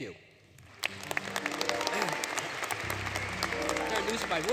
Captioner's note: applause, Music